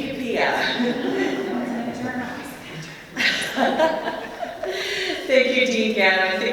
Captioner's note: laughter